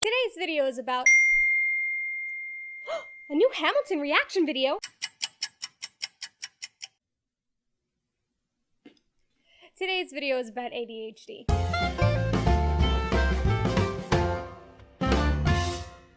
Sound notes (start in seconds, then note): 1.0 ding!; 2.9 gasp!; 8.7 silence